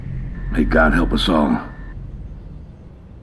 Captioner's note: radio